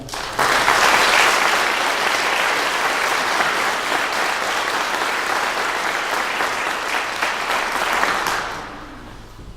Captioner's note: clapping